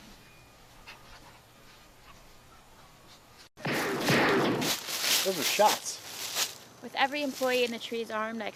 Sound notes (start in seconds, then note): 3.6 distant gunshots